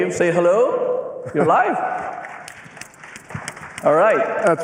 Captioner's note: applause